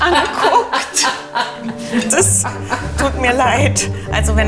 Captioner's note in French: Rires